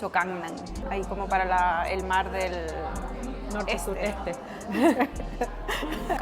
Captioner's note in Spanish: risas